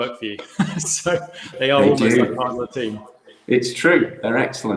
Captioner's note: laughs